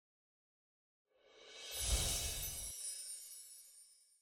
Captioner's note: sparkle chimes